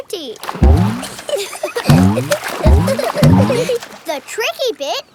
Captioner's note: giggling